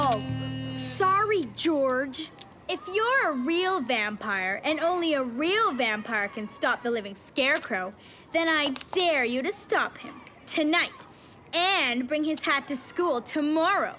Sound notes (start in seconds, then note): none